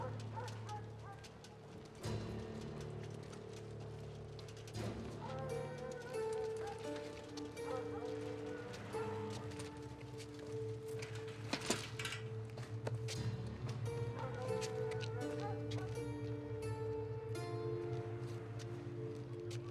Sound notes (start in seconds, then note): 14.0 distant dog barks